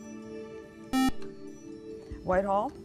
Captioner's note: beep